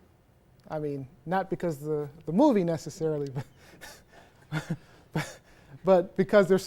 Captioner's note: laughter